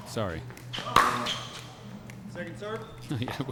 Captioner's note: shoes squeaking; ball being hit; laughing